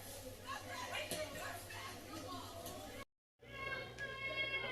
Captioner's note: people Talking